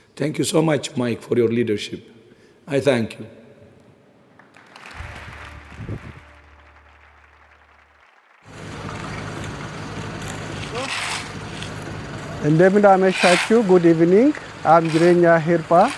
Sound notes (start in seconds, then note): 4.3 audience applauding; 12.5 speaking foreign language